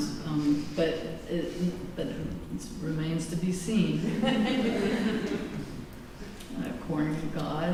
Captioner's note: laughter